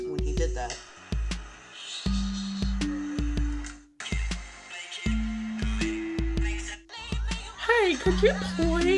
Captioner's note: audible videos playing through coral's phone